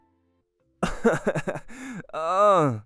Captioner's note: laughs